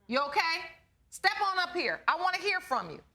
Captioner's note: none